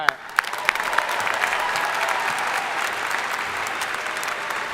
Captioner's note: crowd applauding